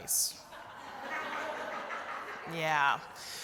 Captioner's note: laughter